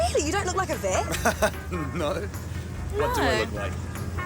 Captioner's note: chuckles